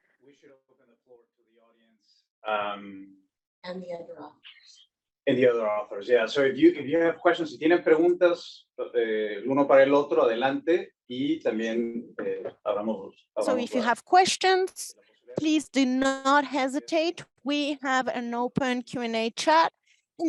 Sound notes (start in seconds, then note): 7.7 speaking Spanish